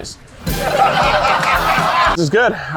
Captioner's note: audience laughs